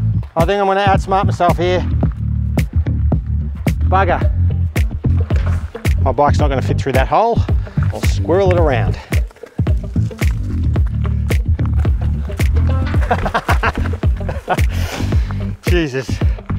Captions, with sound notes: I think I'm going to outsmart myself here. Bugger. My bike’s not going to fit through that hole. I'll squirrel it around. *Laughter* Jesus.